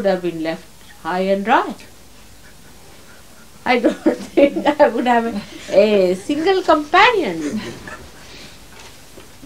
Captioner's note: mother is laughing